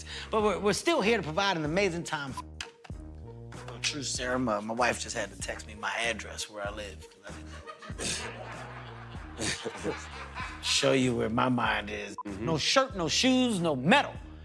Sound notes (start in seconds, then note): 7.3 laughter